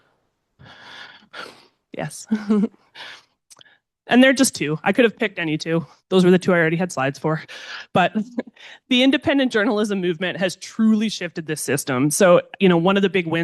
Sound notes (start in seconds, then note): 2.3 chuckles